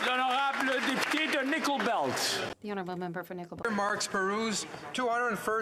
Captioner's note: applause